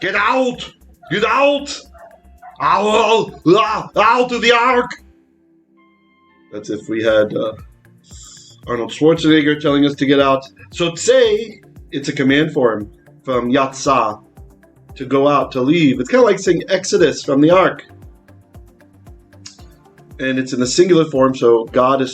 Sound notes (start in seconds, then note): 11.1 Hebrew